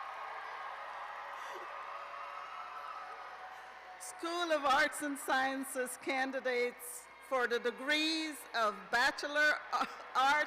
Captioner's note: cheers and applause